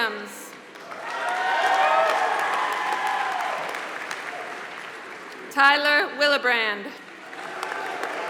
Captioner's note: applause